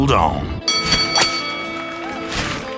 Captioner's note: bell dings